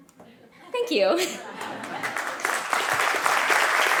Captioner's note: pleasant audience laughter; audience applause